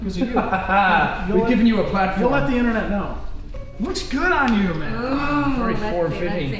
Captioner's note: laughing